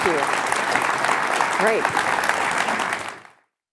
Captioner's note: applause